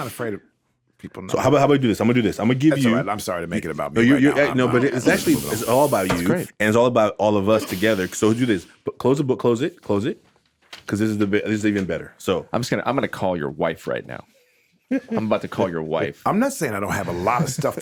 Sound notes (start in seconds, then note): 14.9 laughs